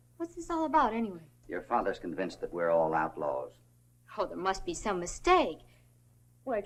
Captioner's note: none